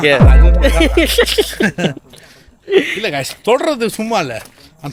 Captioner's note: laughter